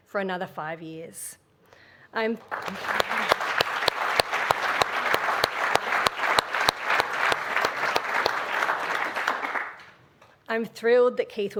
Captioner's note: applause